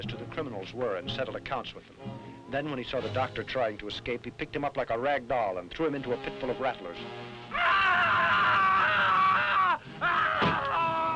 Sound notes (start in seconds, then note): 7.5 Krupp screaming